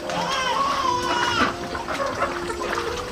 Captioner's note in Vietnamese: la hét